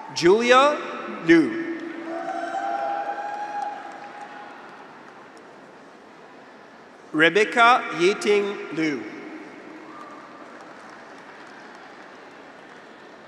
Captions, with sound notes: Julia Liu. (graduates cheer) (audience applauds) Rebecca Yating Liu. (audience applauds)